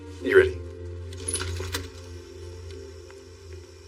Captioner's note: cricketets chirringng